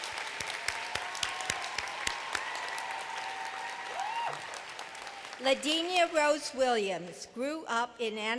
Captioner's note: cheers and applause